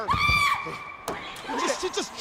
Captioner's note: passenger screaming